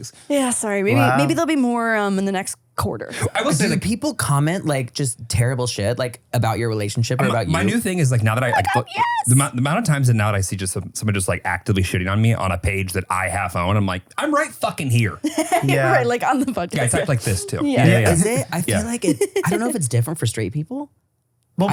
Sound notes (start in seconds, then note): 15.2 laughs